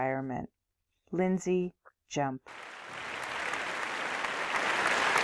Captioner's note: applause